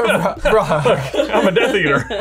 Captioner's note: laughs